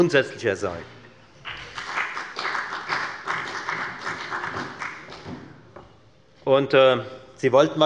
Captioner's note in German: Beifall bei der FDP und bei Abgeordneten der SPD